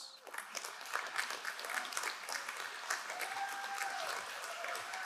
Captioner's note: crowd cheering and applauding